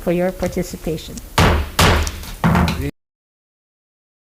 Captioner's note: gavel bangs